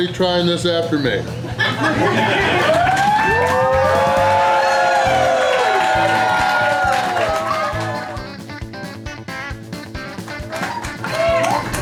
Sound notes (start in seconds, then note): 3.0 crowd laughter, clapping, and cheering